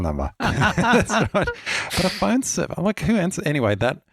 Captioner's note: both laughing